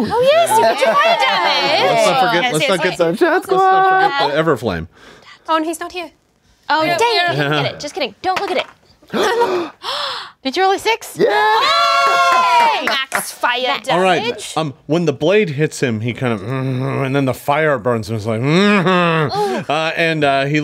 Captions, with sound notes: (everyone chattering over each other) - Everflame? - Oh, he's not here. Just kidding, don't look at it. (gasps) Did you roll a six. (everyone screaming) Max fire damage. - When the blade hits him, he kinda (grunts), and then the fire burns him, it's like, (grunts).